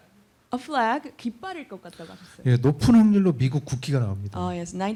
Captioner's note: speaking korean